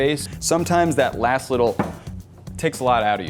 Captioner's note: hand taps